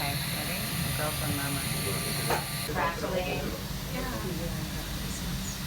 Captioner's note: indistinct chatters